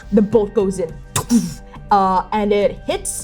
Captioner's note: fwooshing; impact thudding